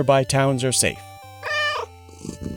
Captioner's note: meow